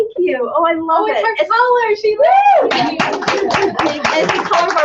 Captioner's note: cheers; applause